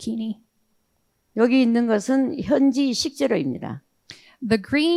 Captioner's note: speaking in foreign language